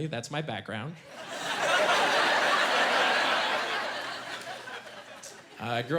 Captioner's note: laughing